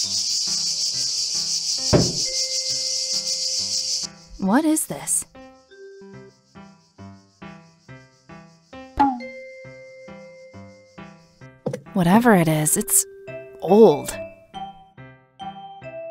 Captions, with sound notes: *Thud* What is this? Whatever it is... it's... old!